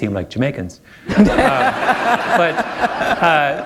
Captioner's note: laughter